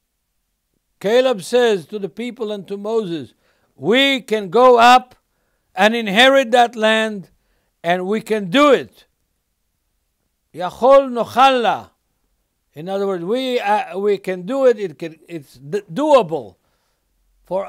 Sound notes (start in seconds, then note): 10.9 speaking Hebrew